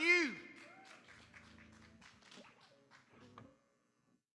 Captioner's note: audience applauding